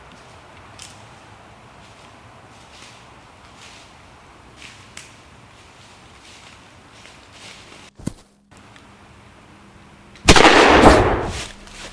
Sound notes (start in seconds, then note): 1.4 footsteps approaching; 7.7 branch falls near camera; 10.3 gunshot